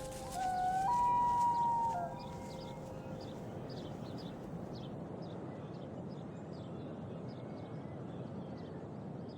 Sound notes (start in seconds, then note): 0.0 owl's call; 2.6 wind blows